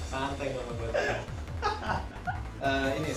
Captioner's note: maniacal laughter